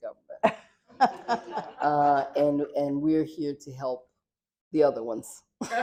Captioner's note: laughter; laughter